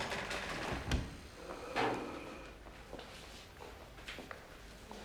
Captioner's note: heavy breathing